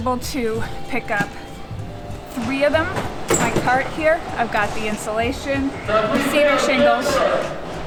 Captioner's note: loudspeaker in background